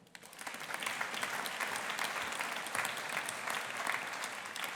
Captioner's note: audience applauding